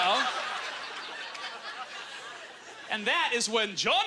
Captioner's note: audience laughter